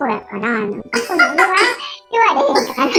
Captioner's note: laughs